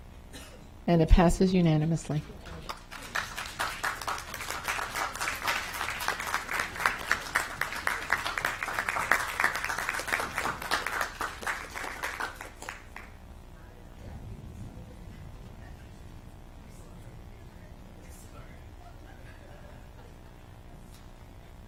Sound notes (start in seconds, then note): 10.4 applause